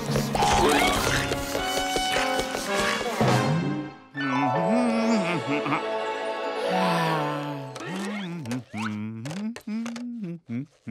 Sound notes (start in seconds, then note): 3.9 humming; 6.6 sighing; 7.2 humming